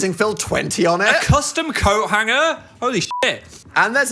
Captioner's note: beep